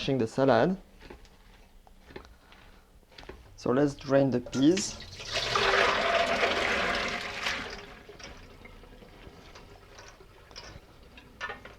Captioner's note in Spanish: agua vertiendo